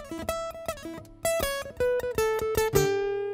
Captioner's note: none